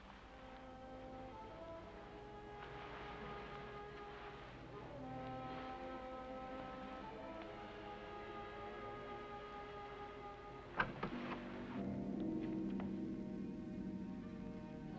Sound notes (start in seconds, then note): 0.2 ominous music; 10.7 door opens; 11.9 ominous music